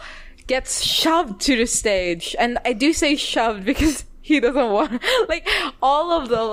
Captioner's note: laughs